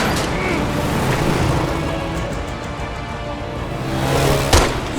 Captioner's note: panting